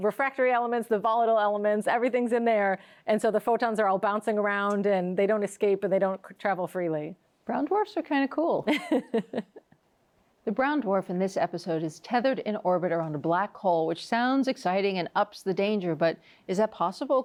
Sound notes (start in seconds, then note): 8.6 laughs